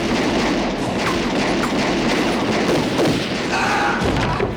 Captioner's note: gunfire